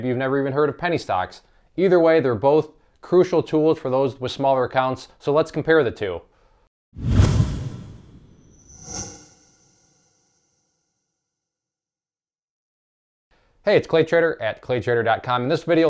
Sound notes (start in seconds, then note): 7.0 whooshing